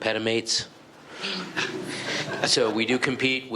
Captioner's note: laughing